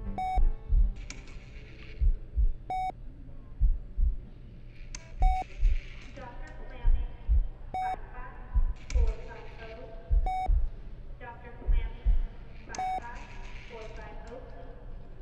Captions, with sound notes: (heart monitor beeps) - [Hospital PA] Dr. Clammy, 55-450. Dr. Clammy, 55-450 please.